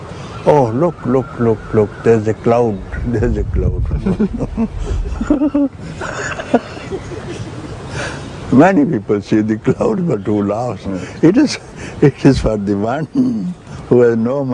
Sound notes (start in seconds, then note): 3.8 laughter